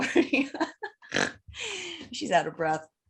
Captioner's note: laughs